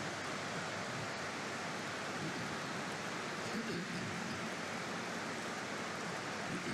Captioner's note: applause